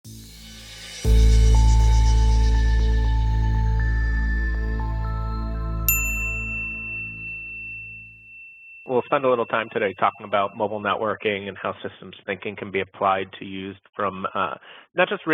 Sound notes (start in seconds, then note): 1.2 logo chimes; 5.8 logo dings